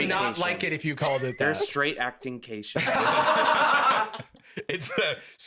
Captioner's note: all laughing